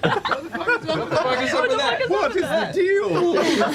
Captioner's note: laughs